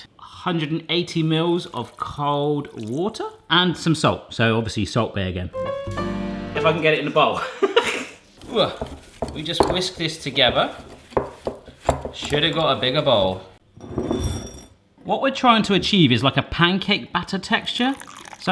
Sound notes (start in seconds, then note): 8.1 laughs